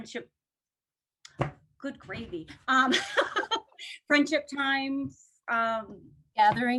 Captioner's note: laughter